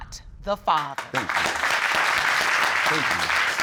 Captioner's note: all applauding